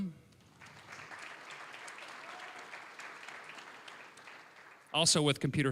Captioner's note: applause